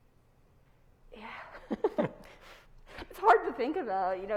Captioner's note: both laughs